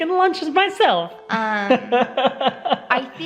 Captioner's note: laughing